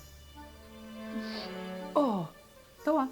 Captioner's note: sniffs